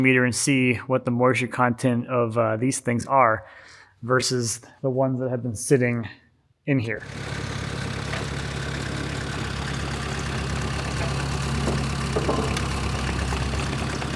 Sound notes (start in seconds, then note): 7.7 machine whirring